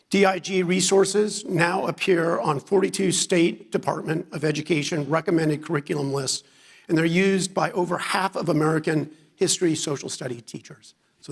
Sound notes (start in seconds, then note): none